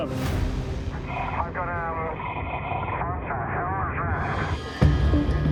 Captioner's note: speaking over radio